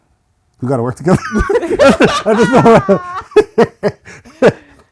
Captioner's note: laughing